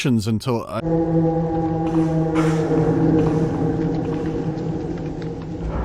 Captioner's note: distant eldritch wail